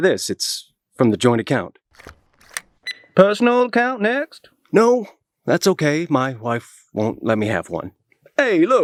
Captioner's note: beep